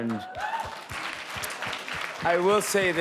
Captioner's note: audience applauding